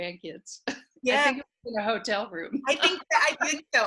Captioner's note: laughing